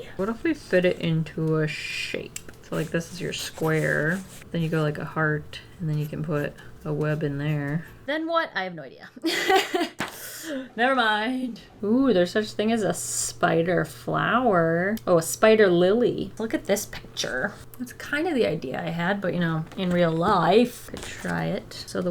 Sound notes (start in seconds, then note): 9.2 laughs